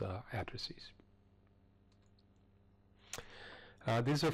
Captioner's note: pause